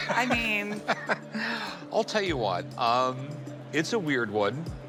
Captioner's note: laughs